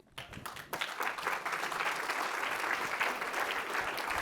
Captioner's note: applause